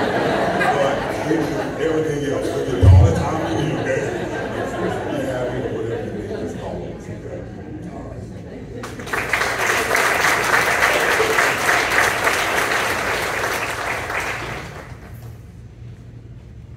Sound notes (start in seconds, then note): 0.1 laughing; 8.8 applause